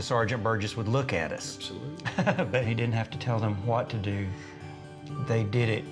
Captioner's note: giggles